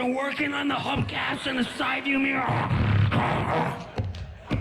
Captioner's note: grunts and growls